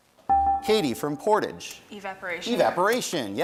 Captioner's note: bell rings